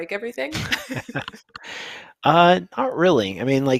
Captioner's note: laughter